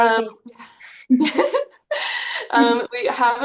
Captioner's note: both chuckling